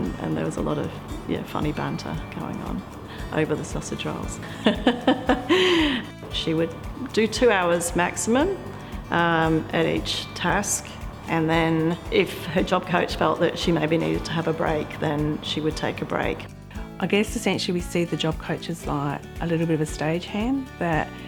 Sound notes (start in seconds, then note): 4.4 laughs